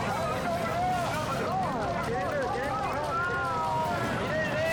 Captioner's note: people shouting